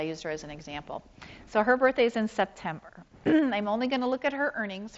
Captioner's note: clears throat